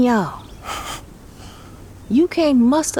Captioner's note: Turner laughs